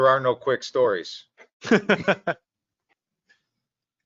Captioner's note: laughs